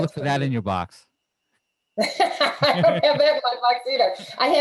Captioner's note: laughing